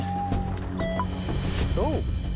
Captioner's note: detector blips